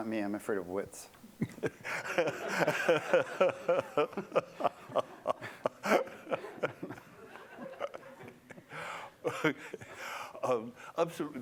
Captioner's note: laughter